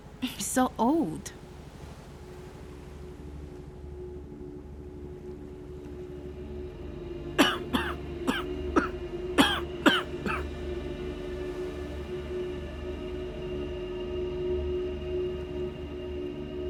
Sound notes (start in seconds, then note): 3.2 ominous music; 7.4 coughing